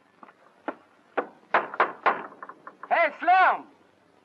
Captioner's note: knocking on door